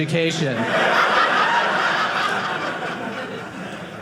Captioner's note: audience laughing